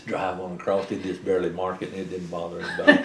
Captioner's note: laughter